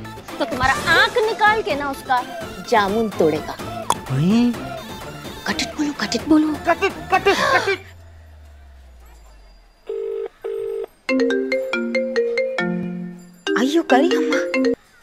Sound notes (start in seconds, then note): 3.7 knocking sound; 9.9 phone dialling; 10.9 phone ringing